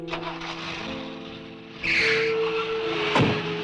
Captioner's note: engine revving